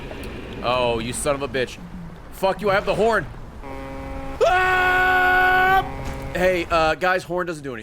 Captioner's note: honks